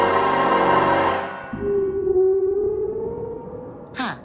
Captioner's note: music broadens; monster shrieks, muffled